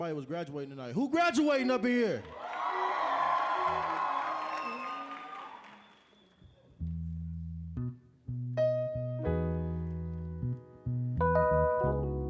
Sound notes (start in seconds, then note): 2.2 cheering